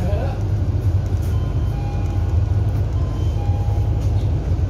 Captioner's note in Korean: 하차벨 소리